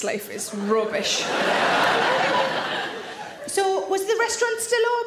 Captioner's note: audience laughs